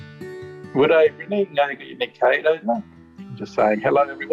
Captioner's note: speaks aboriginal language